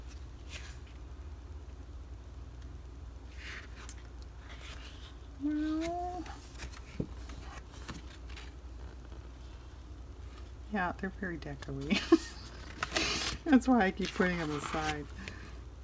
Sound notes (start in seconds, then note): 6.8 laughs